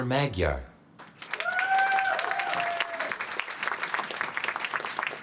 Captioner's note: applause